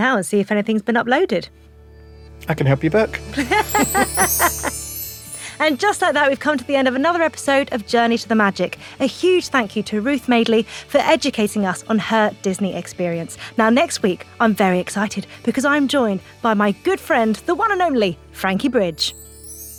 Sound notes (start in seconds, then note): 2.0 magical music; 3.3 both laugh